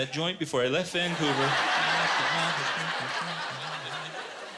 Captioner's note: laughter